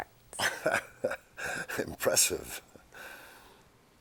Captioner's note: chuckles